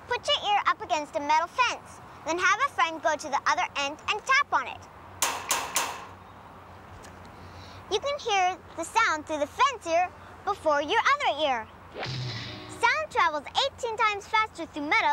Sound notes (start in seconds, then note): 5.2 clanging